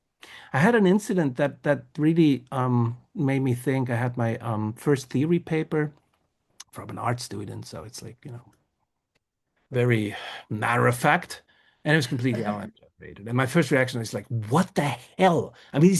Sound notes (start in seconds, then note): 12.7 speaks faintly